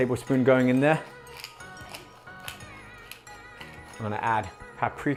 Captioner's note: pepper grinding